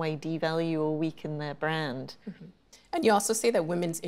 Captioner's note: chuckles